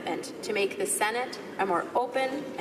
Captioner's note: speaking in french